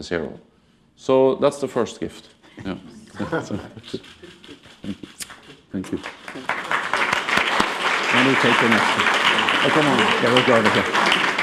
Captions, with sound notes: So that's the first gift, yeah. Thank you. (applause) (speaking under applause, off mic)